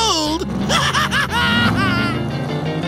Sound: laughing

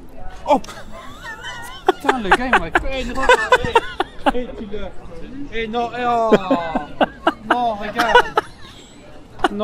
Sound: laughs

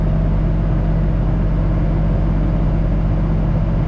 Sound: engine humming

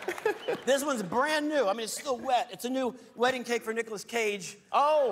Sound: applause

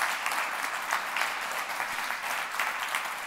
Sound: applause

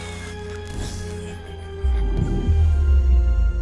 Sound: sfx: electrical outtage

